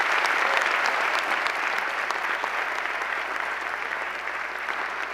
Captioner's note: applause